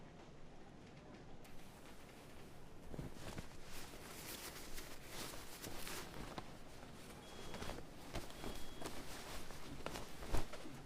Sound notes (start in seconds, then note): none